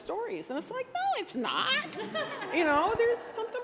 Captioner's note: laughter